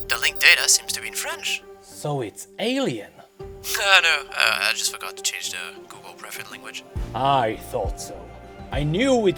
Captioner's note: jokingly